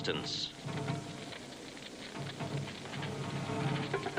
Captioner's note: fire crackles